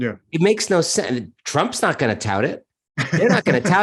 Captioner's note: laughing